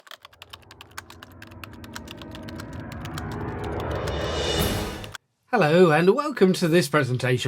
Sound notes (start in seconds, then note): 0.0 typing